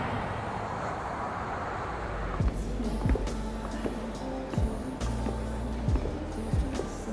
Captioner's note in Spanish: Motores de coche